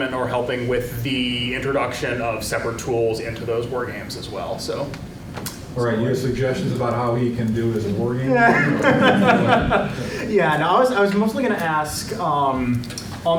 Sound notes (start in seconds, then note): 8.3 chuckles